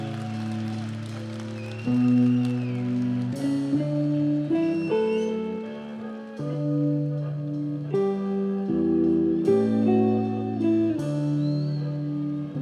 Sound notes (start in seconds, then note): 0.0 audience cheers